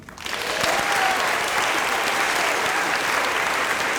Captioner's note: applause